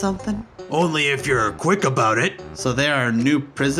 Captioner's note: in soldier's voice